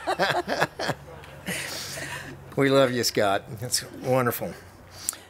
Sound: laughs

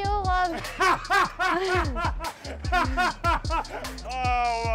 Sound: laughs

